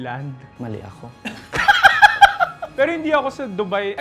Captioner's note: laughs